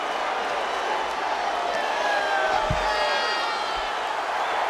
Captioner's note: crowd roars